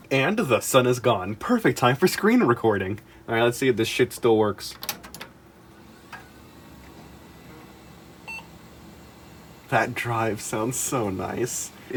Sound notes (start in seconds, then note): 4.8 chonky power switch click; 5.6 drive whirs to life